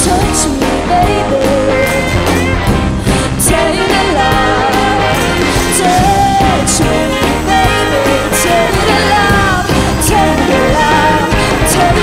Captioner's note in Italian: Applauso